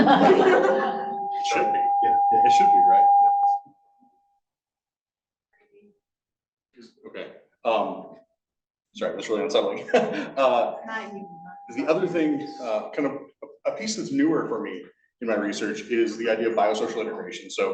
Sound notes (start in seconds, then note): 0.0 attendants laughing; 3.4 microphone distorting; 9.6 laughs